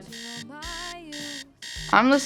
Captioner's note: alarm buzzing